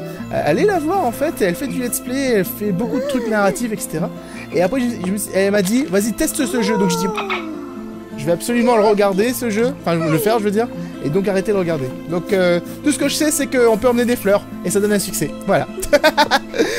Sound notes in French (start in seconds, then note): 6.9 Bruit de dauphin pour censurer; 15.7 Rires